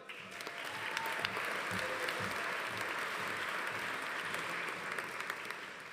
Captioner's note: audience applauding; audience cheering